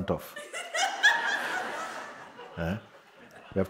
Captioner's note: more laughter